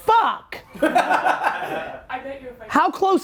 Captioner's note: laughing